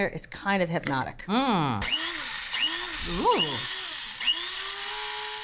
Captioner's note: grinder whirs